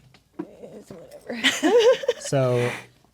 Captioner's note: players laughing